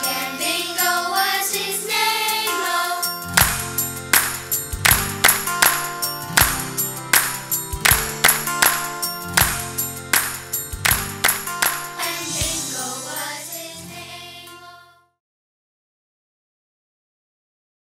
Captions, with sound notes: And Bingo was his name-o. (clap)-(clap)-(clap)-(clap)-(clap) (clap)-(clap)-(clap)-(clap)-(clap) (clap)-(clap)-(clap)-(clap)-(clap) And Bingo was his name-o.